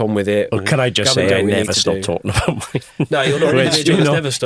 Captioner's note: chuckles